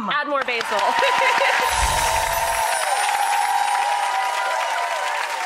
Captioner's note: cheering and chimes